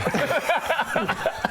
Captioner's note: cracks up